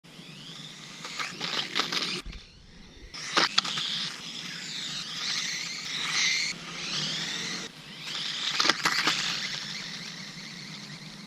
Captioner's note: small Electric Motor Sounds